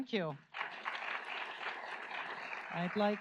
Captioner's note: audience applauds